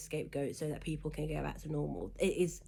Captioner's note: stammers